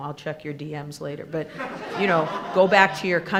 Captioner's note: attendees laughing